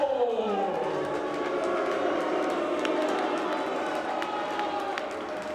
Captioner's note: crowd booing